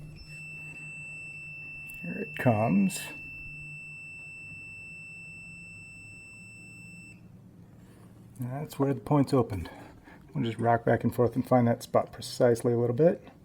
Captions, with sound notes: Here it comes. [beeping stops] [beeping stops] That's where the points opened. We'll just rock back and forth and find that spot precisely a little bit.